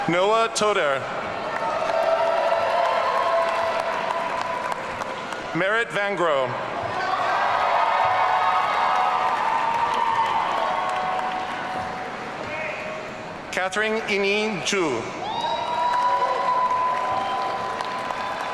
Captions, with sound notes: Noa Toder. (audience cheering) Marit Vangrow. (audience cheering) Katherine Yining Zhu. (audience cheering)